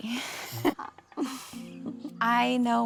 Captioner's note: laughs